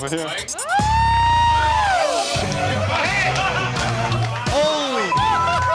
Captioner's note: excited chatter